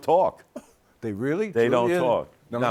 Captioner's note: laughs